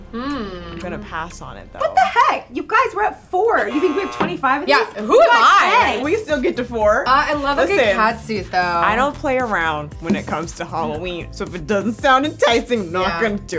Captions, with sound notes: - Hm. - I'm gonna pass on it though. - What the heck? You guys, we're at four. (horn blows) You think we have 25 of these? - Yeah. Who am I? - We got ten! - We still get to four. - Oh, I love a good catsuit though. - I don't play around when it comes to Halloween. So if it doesn't sound enticing, not gonna do it.